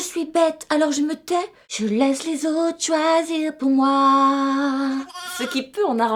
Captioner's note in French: bruit de chèvre